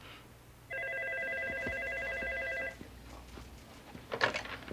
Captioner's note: phone ringing